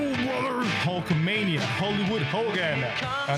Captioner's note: speaking In Foreign Language